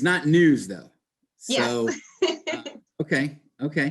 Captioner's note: laughs